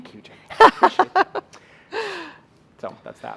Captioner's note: laughing